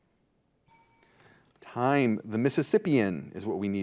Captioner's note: bell dings